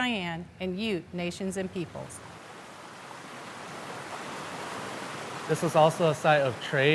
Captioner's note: water rushing